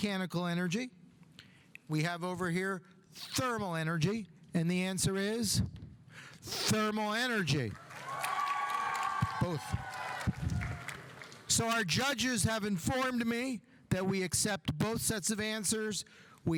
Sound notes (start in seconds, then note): 7.8 audience applauding; 7.8 audience cheering